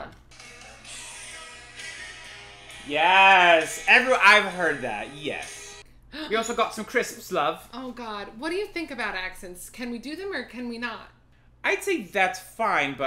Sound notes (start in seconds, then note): 6.1 English accent